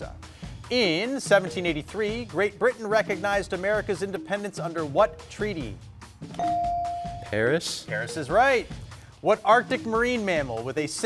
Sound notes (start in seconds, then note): 6.4 bell dinging